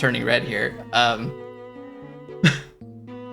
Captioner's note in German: lacht